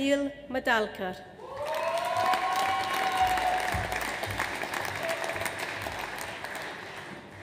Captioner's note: audience cheers; audience applauds